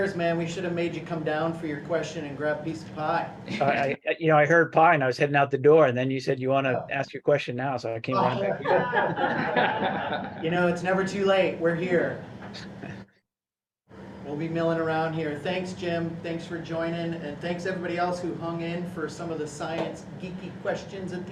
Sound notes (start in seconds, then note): 8.4 laughter